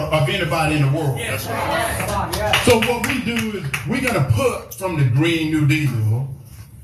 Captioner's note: applause